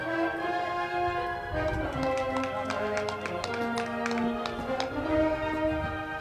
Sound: band music; crowd clapping

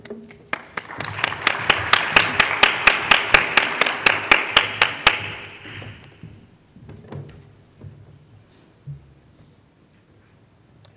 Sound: applause

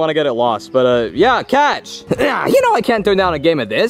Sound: grunts

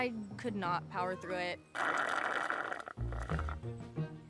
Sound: slurping

